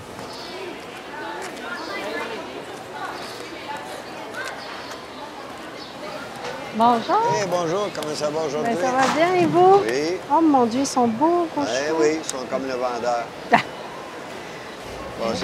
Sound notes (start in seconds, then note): 6.0 both speaking French; 13.5 chuckling